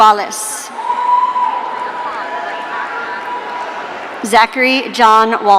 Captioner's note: audience cheering